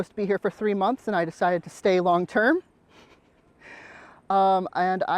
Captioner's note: laughs